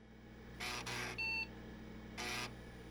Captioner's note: buzzing; beeping